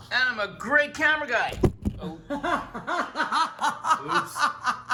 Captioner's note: Rachael laughs